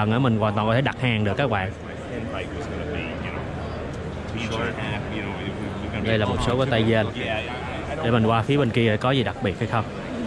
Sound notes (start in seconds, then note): 2.1 people talking